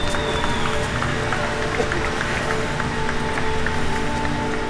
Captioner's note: clapping